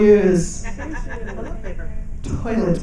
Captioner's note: people laughing